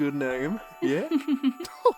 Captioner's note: candle giggles